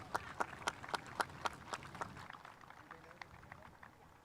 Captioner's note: spectators applauding